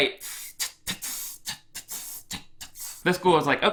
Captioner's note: hisses playfully